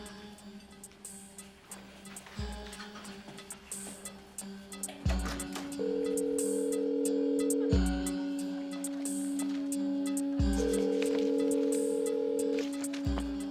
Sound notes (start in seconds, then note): 0.2 soft tense music; 5.1 door opens; 5.1 phone rings